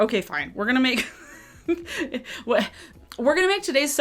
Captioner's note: laughs